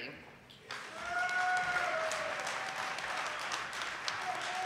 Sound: audience applauding

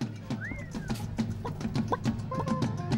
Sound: clucking

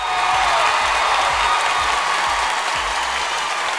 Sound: crowd cheers

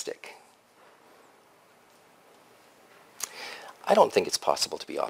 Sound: pause

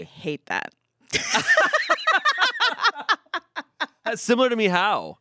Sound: everyone laughs

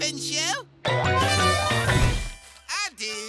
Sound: elephant horn

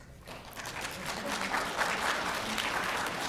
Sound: applause

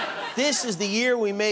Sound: laughter

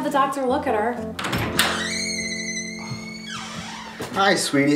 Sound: door squeaking

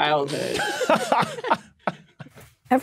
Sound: group laughing

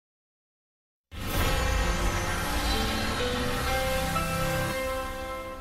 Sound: grand chimes continuing

